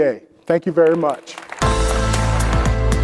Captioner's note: audience applauds; upbeat music